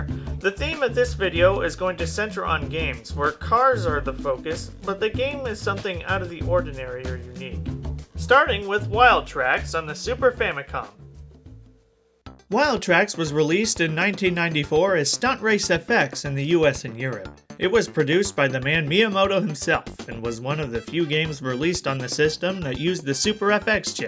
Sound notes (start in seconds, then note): none